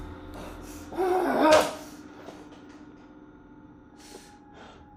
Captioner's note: Kenny shouts